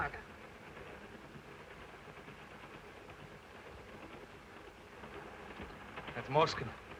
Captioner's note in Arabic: صوت خشخشة القطار